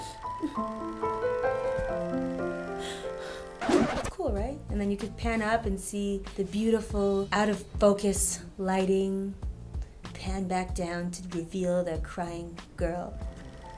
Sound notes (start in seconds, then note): 0.0 sad music; 3.6 record scratches